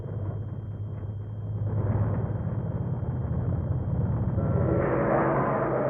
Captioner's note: plane engines roaring